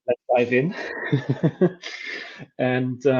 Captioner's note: both laughing